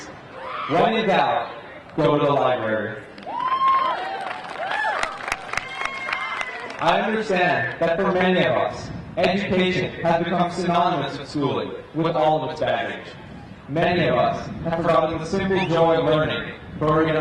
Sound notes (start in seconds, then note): 3.1 crowd cheering; 3.2 crowd applauding